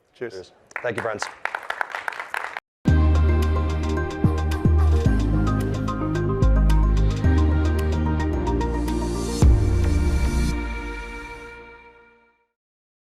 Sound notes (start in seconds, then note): 0.6 crowd claps; 2.9 gentle music